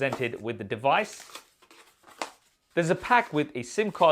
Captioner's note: package rustling